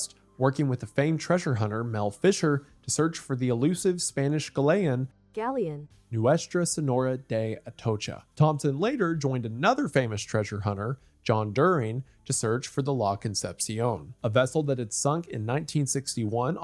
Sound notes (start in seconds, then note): 5.3 Robotic voice